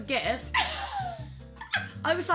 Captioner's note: laughs